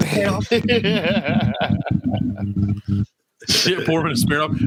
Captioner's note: laughing